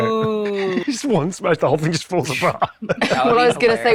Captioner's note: laughs